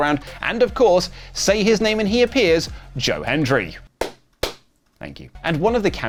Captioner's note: clap